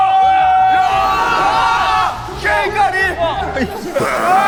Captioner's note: door slides open